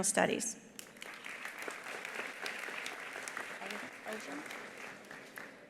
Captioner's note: attendees applauding